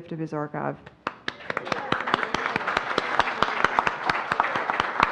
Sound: audience applauds

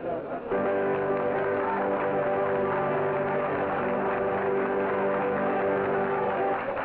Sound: audience applauding; piano music

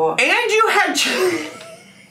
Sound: laughing

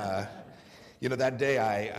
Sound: laughter

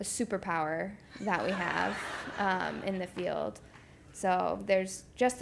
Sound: laugh

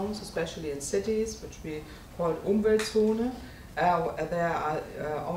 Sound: speaking in German

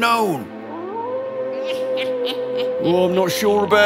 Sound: wolves howl, evil laughter

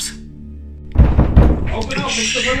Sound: banging on door

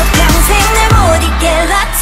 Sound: cheers

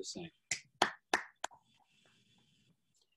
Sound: applause

